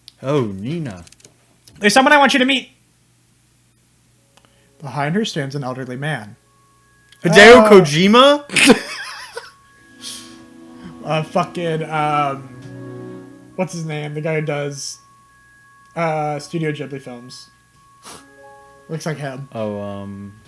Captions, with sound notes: "Oh, Nina." "There's someone I want you to meet!" Behind her stands an elderly man. "Padeo Kojima?" [Laughter] "Uh, fucking, uh, what's his name? The guy who does Studio Ghibli films. Looks like him." "Oh, um."